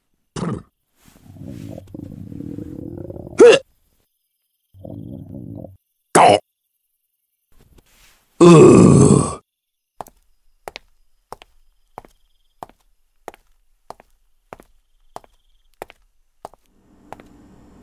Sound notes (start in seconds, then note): 0.2 horse Sounds; 4.7 more sexeh growling; 8.4 groans of Annoyance